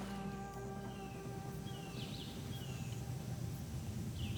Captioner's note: birds chirping